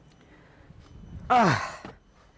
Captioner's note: old man noises